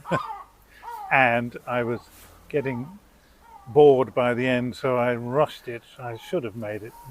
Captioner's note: laughing